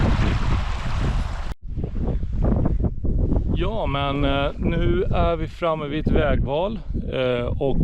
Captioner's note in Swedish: Applåder